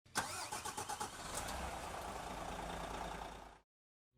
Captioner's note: engine firing